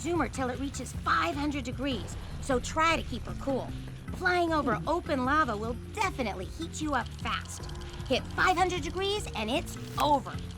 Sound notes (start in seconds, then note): none